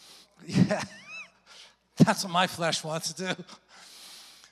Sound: chuckles

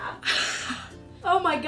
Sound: laughing

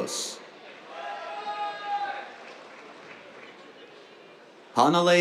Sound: cheers, applause

